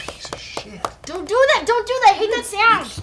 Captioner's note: clicks his teeth together